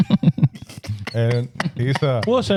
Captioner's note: laughing